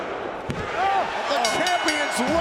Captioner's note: bell rings